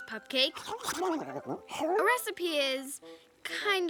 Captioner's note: babbles